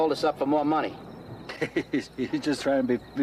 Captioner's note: laughing